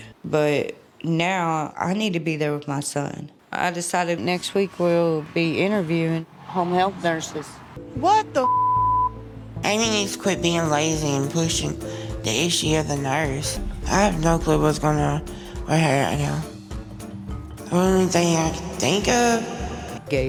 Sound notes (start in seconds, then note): 8.4 beep